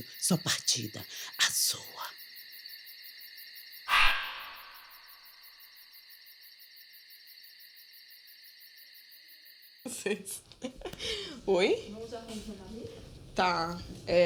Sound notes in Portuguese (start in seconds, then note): 2.3 sussurra; 6.1 cricrilar de grilos continua; 9.8 risos